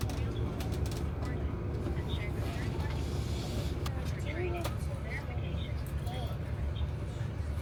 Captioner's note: traffic sound